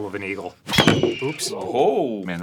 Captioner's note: eagle cry